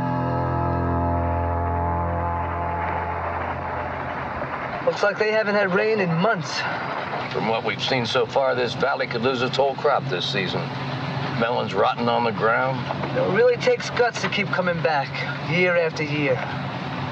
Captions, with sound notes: (tense music) (car driving) - Looks like they haven't had rain in months. - From what we've seen so far, this valley could lose it's whole crop this season, melons rotting on the ground. - It really takes guts to keep coming back year after year.